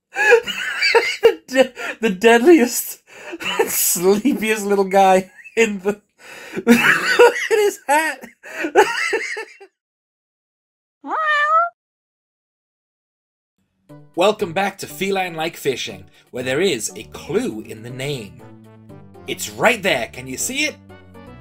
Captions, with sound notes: [Laughing] The deadliest- [Laughing] And sleepiest little guy in the- [Laughing] ...Look at his hat! [Meow sound effect] ...Welcome back to 'Feline Like Fishing', where there is a clue in the name... It's right there, can you see it?